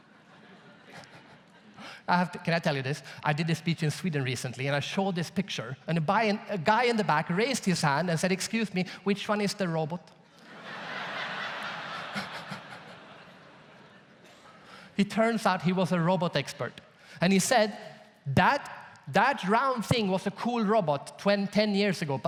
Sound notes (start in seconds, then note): 0.0 audience laughs; 10.4 audience laughs loudly; 11.6 laughs